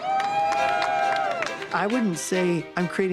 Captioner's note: cheers and applause